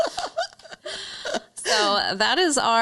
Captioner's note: laughs